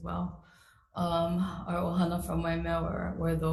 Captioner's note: speaks foreign language